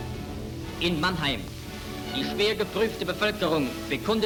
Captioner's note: speaking in German